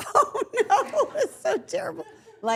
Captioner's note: all laughing